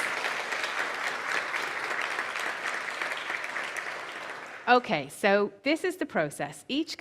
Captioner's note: applause